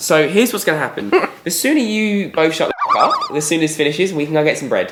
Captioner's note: bouncy effect